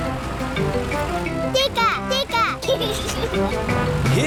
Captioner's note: giggles